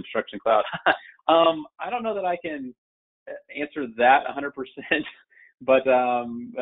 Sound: chuckles

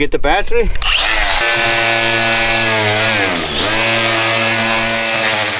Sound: machine buzzes loudly

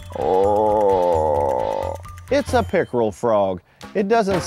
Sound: wildlife call

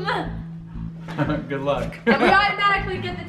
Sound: laughs

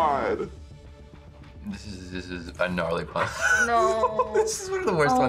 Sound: laughs

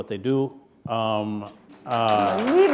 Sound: applause

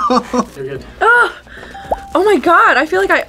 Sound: laughs; ding

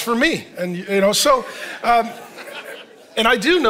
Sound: congregation laughing

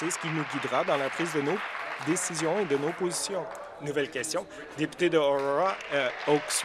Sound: applause

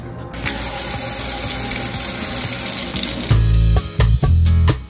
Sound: water pouring; upbeat music

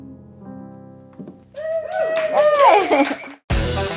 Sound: cheers

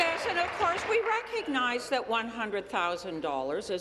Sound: applause

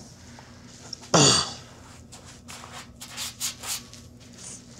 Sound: clears throat

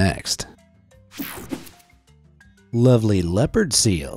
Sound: air whooshing

